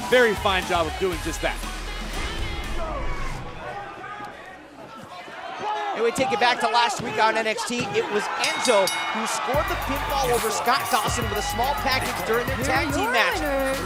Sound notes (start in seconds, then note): 2.3 crowd chatter